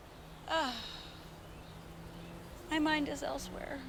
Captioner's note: Vanessa sighs